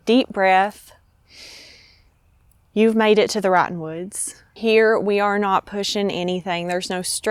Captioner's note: breathes deeply